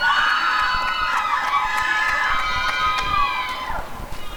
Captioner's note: applause and cheering